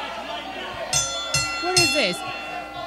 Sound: ring bell tolls

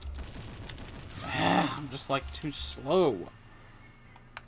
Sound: sigh

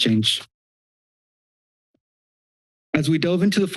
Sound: silence

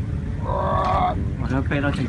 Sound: struggling

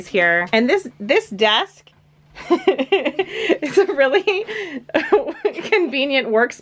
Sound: laughs

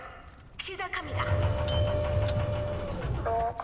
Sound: mechanical whirring

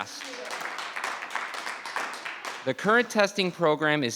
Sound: audience clapping

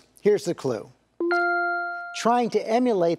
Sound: bell dings

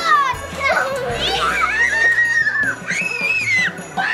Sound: all scream

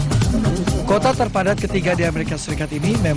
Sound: non-english speech

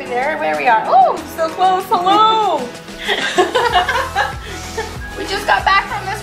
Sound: both laughing

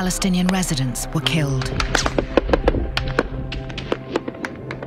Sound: gunfire continues

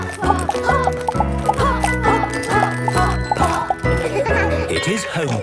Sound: laughter

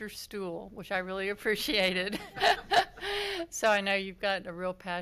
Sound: laughs

